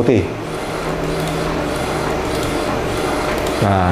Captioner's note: printer machine sound